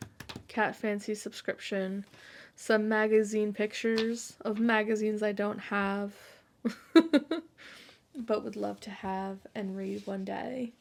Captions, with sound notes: Cat Fancy subscription, some magazine pictures of magazines I don't have, (laughs) but would love to have and read one day.